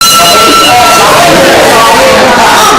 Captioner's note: dźwięk dzwonka